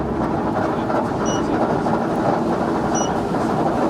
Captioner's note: elevator chimes twice